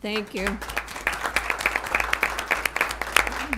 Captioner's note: applause